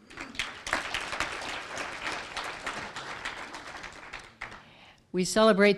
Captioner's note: applause